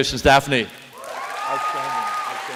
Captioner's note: applause